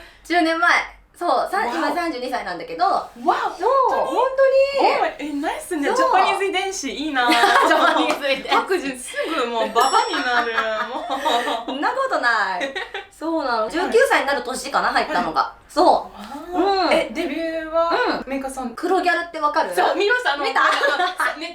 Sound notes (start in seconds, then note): 7.2 laughs; 10.8 laughs; 20.4 laughs